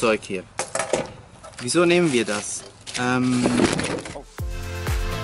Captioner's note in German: Kamera fällt